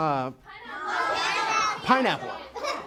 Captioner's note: audience yells names